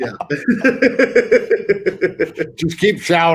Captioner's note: all laugh